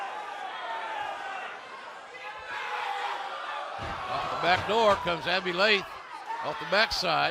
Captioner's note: cheers and applause